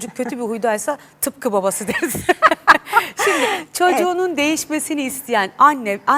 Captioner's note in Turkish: kahkaha